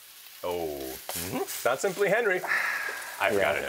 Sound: sighs

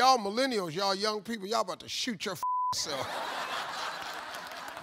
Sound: beep; audience laughs and applauds

